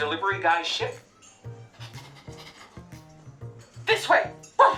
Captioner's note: sniffing